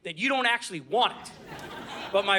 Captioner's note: audience laughing